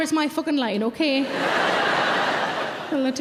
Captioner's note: audience laughing